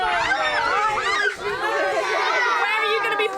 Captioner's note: excited squeals